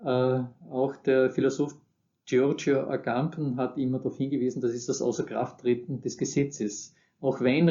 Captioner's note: Italian